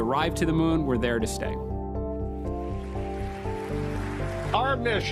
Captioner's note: applause